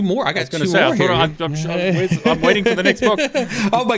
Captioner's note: murmurs